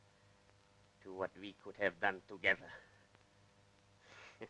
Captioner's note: chuckle